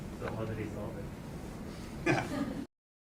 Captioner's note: laughing